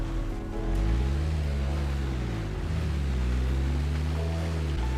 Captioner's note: none